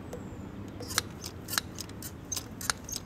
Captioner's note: clacking